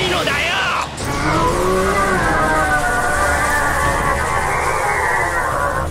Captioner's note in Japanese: スルガトのうなり声